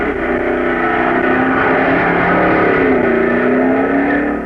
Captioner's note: engines roaring